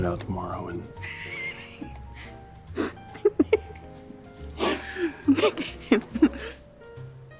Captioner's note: laughing